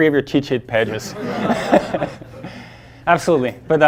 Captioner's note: audience laughing